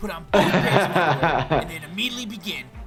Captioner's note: laughs